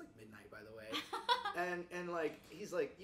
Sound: chuckles

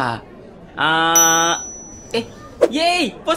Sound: ting!

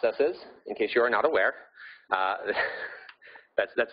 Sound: laughing

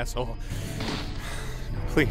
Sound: exhales

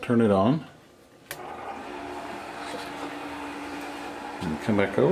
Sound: whirring

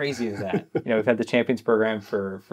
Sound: laughing

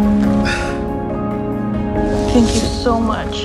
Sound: exhales sharply

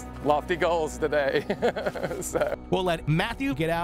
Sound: laughs

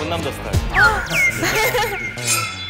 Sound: cough

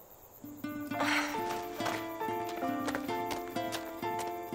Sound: Annie sighs

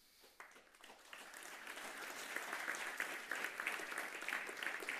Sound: audience applauding

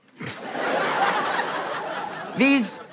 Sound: audience laughter

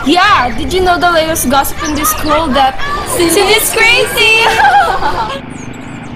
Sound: laughing

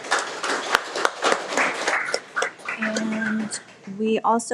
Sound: everyone applauds

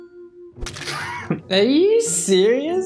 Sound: squelching; laughing

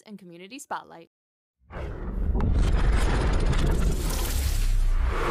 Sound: electronic sound effects

